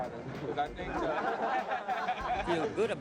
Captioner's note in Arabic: الجميع يضحكون